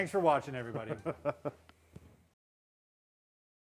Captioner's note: chuckles